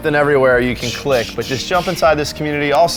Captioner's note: imitates swooshing